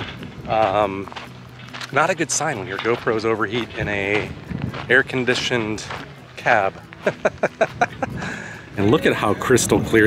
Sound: laughter

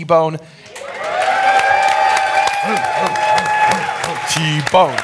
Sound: audience cheering

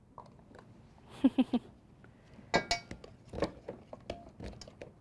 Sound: laughs

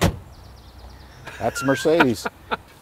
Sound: laughs

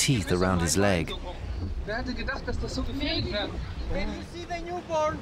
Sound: speaking German

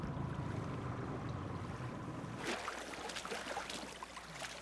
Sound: splashing while wading; fish splashing

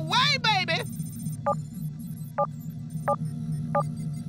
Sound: clock beeping

